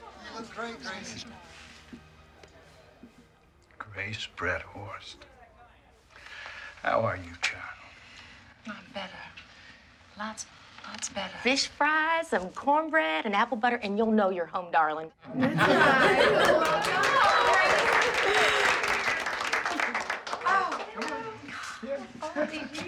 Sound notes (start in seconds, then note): 15.4 laughter, applause